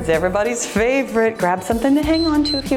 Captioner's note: timer beeps